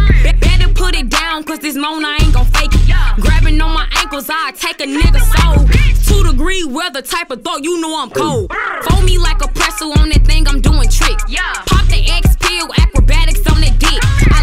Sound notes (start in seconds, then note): 8.2 burr